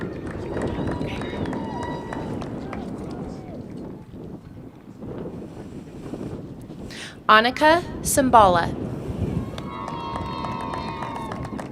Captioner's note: applause